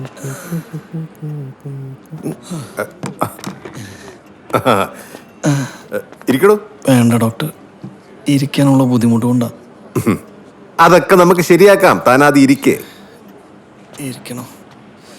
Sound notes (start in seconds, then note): 0.0 Shefeek groaning; 10.1 chuckling